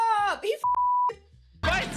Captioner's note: beep